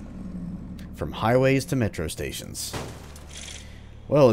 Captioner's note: smash